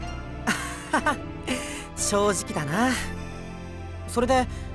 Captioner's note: laugh